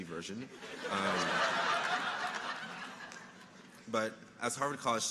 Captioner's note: audience laughing